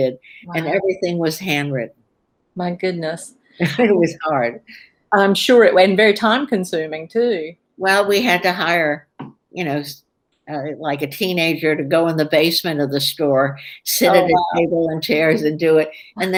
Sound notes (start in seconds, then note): 4.0 laughs